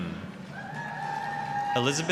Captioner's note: applause, cheering